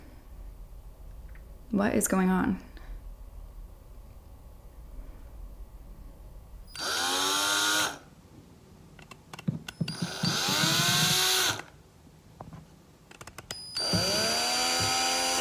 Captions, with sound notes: What is going on? (drill whirring)